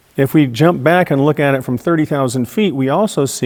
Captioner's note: none